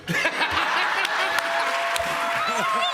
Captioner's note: cheers and applause